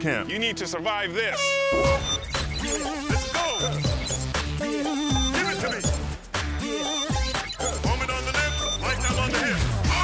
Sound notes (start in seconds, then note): 1.3 horn blowing; 2.4 upbeat music